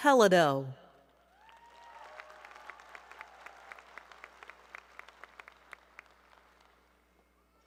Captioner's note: applause